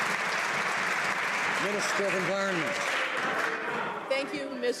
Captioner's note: some Applause